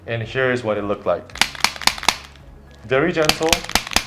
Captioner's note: activator clicks